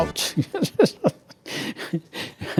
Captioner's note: laughing